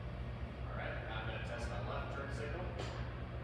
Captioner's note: lights click